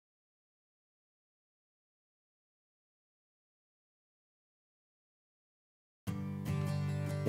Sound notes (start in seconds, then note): 0.0 silence; 6.0 acoustic guitar